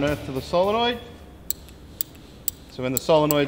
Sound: three clicks; clicks

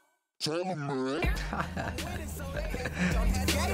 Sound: chuckling

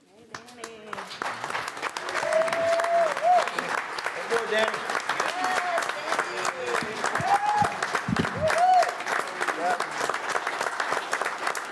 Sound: applause

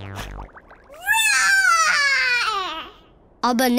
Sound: roaring

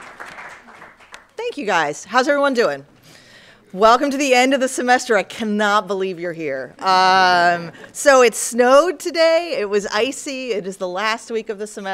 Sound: applause

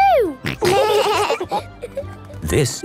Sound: laughing

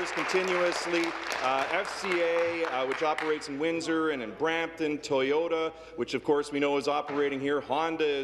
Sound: applause

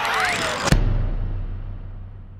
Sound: crash!

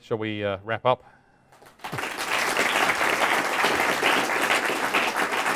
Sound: applause

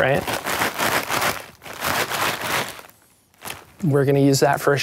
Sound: bag shaking

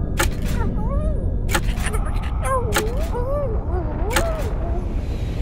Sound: scared Noises

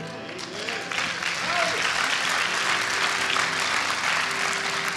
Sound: applause

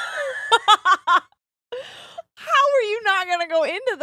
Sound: both laughing

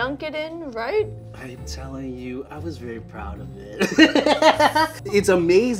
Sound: laughs

